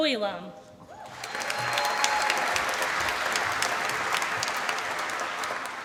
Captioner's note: applause